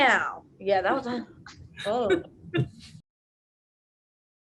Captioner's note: laughs